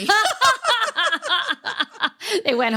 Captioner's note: laughing